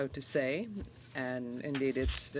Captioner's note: speaking French